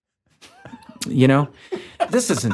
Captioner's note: laughs